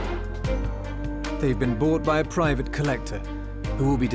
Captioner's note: loud hammer